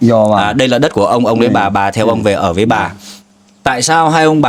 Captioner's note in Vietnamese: khịt mũi